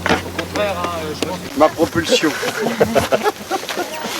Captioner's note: laugh